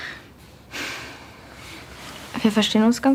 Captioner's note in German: Seufzen